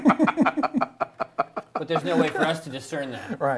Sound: laughing

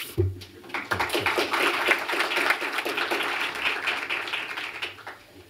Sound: applause

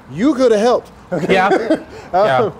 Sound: laughter

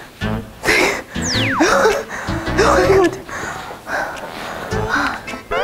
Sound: she just laughs

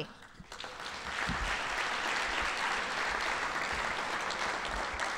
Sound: audience applauding

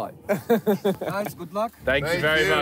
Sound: laughing

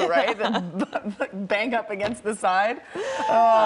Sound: laughter

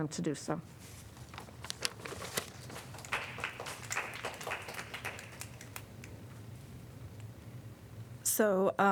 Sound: applause

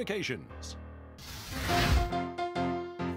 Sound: flames exploding; old-time piano music

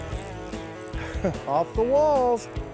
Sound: chuckles

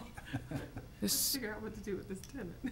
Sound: laughing

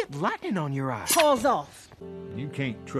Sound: sword unsheathes

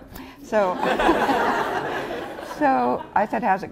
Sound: laughter

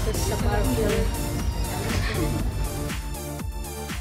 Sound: laughing

